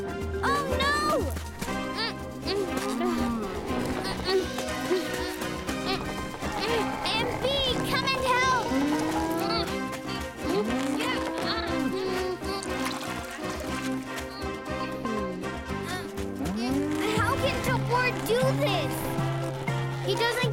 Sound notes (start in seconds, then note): 1.7 grunting; 10.5 grunting; 14.7 sighs; 20.3 grunting